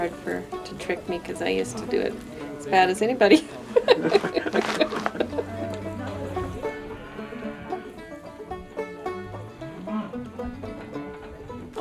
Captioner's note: laughs